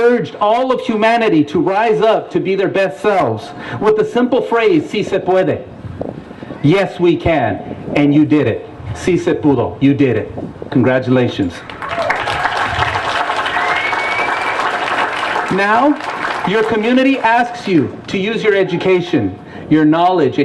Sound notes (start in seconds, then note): 11.6 applause